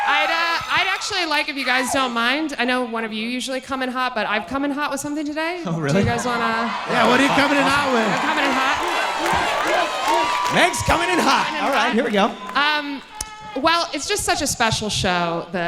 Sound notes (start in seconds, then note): 9.3 audience cheering